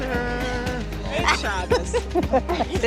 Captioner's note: laughter